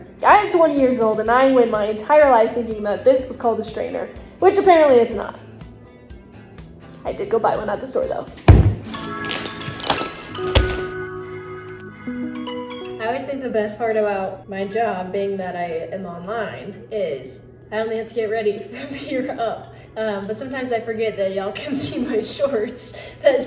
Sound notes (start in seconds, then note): 8.4 items thudding; 8.5 soft music